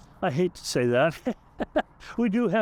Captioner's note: laughs